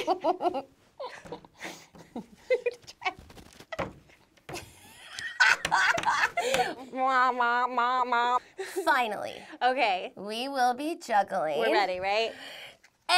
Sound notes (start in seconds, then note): 1.0 giggles; 4.6 laughing